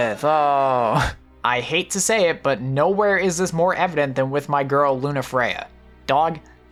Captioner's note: chuckles